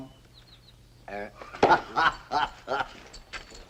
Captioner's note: guffaws